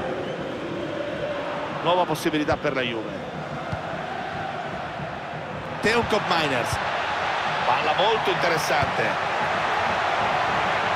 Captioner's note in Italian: Applauso